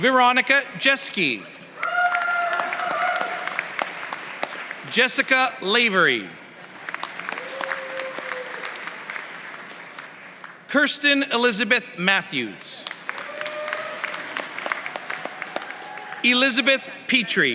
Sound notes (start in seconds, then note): 1.8 applause; 15.8 applause